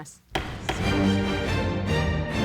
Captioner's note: gavel thudding